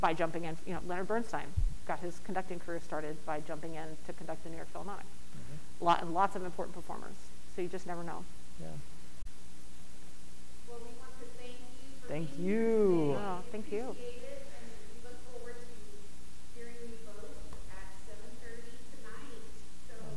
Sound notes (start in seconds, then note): 10.0 hazy Voice; 14.0 hazy Voice